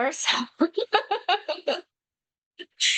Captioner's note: laughs